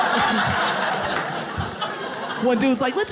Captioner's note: audience laughs